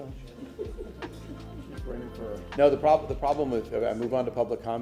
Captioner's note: laughter